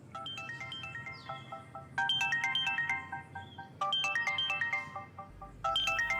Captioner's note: phone ringing